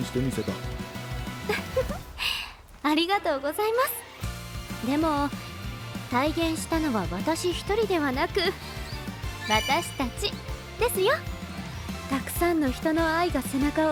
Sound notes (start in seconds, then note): 1.4 laughs